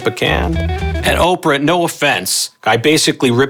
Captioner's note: speaks faintly